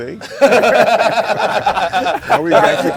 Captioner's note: everyone laughing